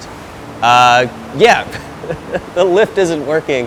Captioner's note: laughs